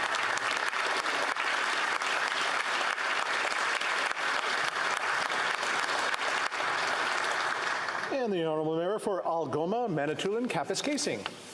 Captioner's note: some Applause